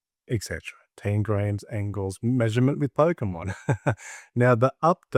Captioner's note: laughs